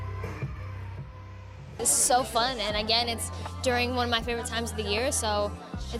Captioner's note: crowd cheering and applauding